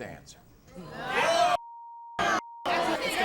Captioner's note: audience shouts; beeps